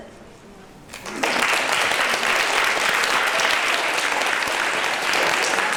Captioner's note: applause